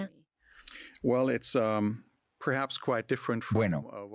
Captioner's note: Hablando idioma extranjero